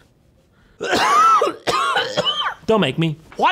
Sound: cough

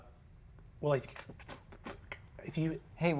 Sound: mimics static crackling

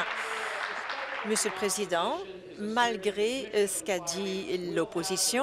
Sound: applause

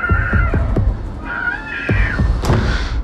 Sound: knocking; "No signal" sound

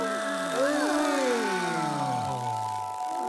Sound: gasp in awe

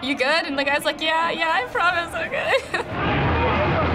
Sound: chuckles

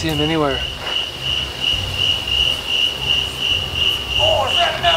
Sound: crickets chirping

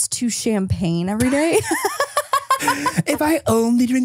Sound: laughs

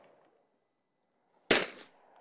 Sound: bang

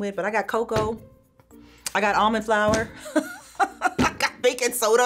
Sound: laughs

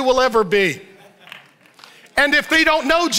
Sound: light claps

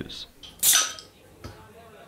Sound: cap pops

